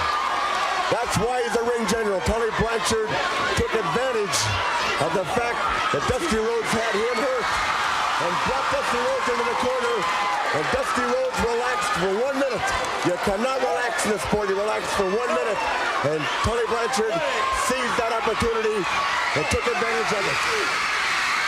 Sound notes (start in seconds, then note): 18.6 crowd cheering